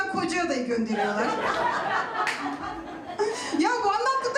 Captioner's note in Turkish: Gülüşmeler